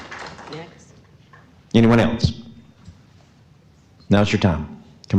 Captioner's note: some Applause